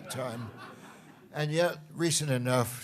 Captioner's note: laughter